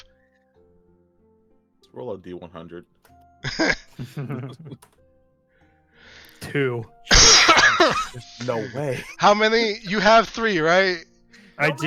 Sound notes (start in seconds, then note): 6.5 laughter